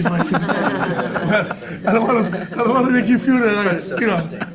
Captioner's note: everyone laughing